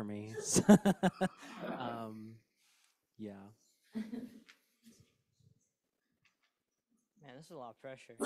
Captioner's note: laughs